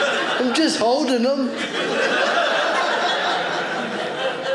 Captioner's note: audience laughing